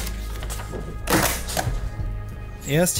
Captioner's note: stamping